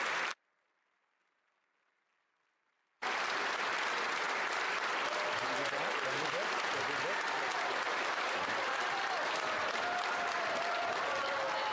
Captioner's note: cheering and Applause